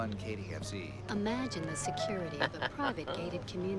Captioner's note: voiceover